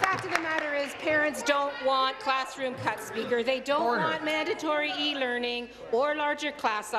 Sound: applause

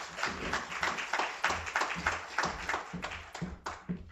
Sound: applause

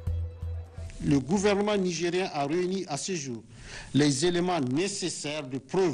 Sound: speaking in French

